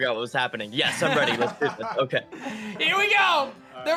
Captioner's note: laughs